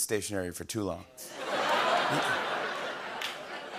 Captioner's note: laughter